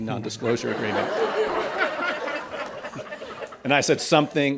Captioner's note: laughter